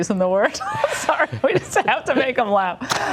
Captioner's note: laughing